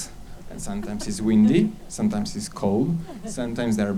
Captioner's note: laughs